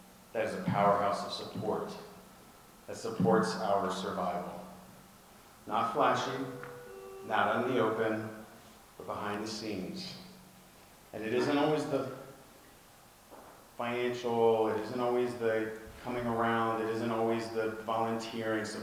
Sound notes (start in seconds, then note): none